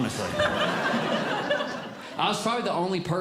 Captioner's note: audience Laughing